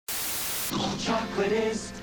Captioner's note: static buzzing